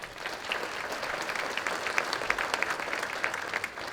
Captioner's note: applause